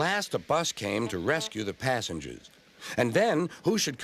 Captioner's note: honks